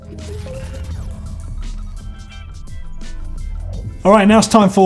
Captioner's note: whirring and beeping